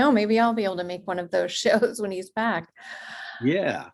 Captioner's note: chuckles